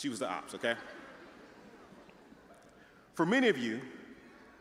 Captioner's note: audience chattering